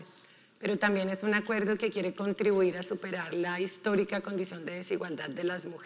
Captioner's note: speaking in foreign language